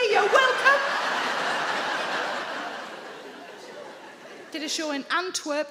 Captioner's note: audience laughing